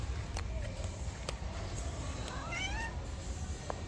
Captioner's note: meowing cat